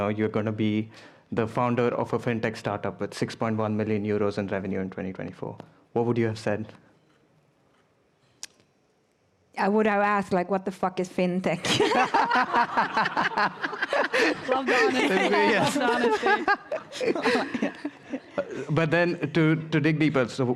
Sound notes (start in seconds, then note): 13.9 laughter